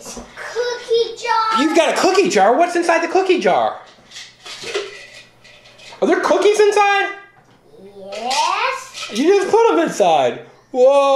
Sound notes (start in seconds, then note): 4.1 clanking